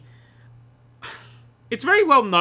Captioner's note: sigh